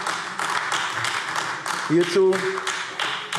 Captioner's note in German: Beifall AfD